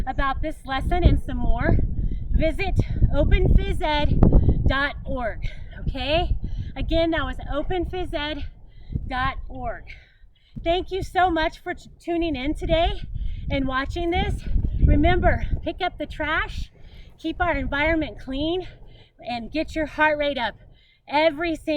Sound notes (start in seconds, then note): none